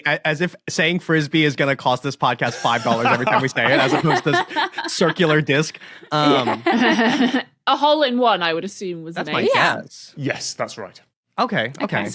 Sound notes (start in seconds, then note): 6.0 others laughing